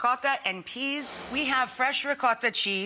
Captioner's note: waves crashing